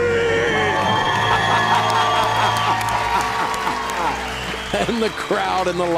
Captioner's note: cheers and applause; Dave Ramsey laughing